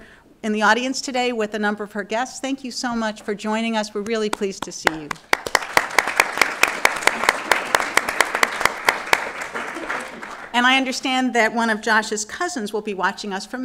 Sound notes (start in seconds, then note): 5.0 audience Applause